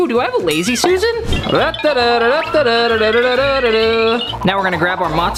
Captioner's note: vocalizing